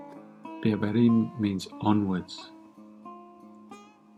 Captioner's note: reading in Farsi